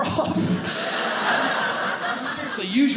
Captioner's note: audience laughing